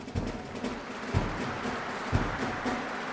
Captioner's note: applause